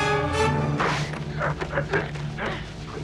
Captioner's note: sword slices; both grunting